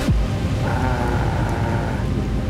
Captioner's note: air rumbles